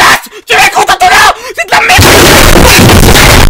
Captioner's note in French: Cris indescriptible